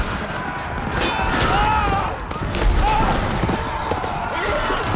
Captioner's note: screams